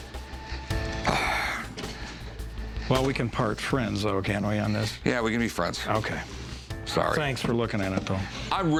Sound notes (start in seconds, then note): 0.3 sighs